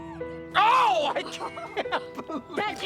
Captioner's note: laughing